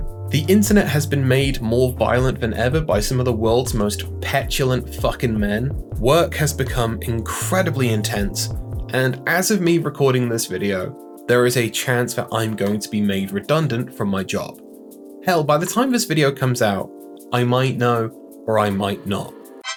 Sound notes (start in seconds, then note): none